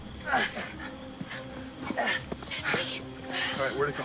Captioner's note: groaning